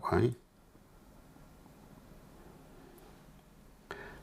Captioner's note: silence